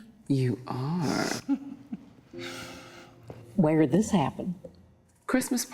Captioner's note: chuckles